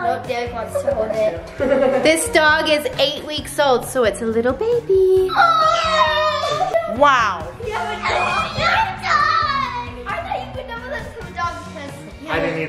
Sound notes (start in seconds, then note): 5.2 collective screams